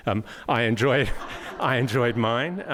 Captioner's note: audience laughing